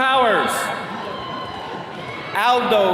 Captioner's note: attendees cheering